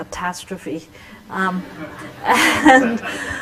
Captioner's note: laughter